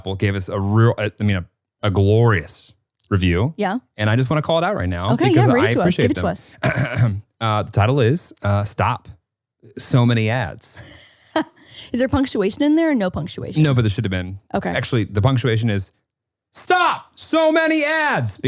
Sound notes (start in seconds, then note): 6.6 clearing throat; 10.8 laughing